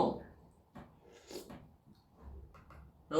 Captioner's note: slurp